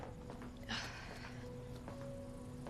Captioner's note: sighing